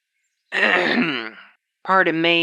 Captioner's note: clears throat